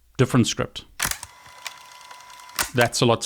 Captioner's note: fast forward whirring